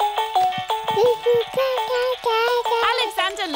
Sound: mobile playing loud music; cooing

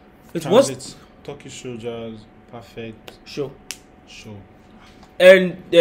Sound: explaining in English to him

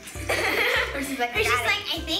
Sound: laughs

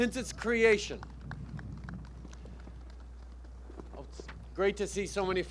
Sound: applause

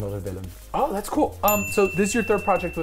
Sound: bell dings

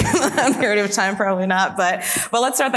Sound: laughs

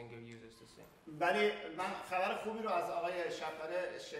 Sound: speaking in farsi

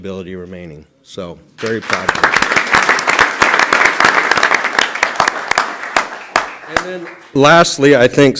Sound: applause

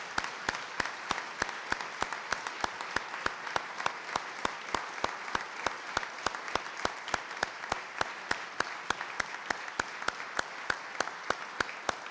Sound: applause

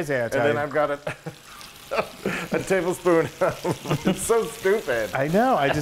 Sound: laugh

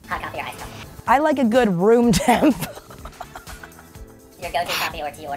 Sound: laughs

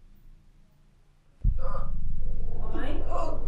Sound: growling noises; foreboading, electronic music

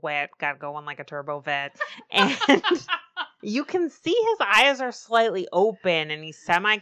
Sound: laughs

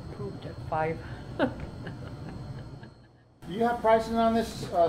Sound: chuckling ruefully

